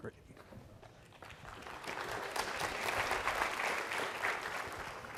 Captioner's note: applause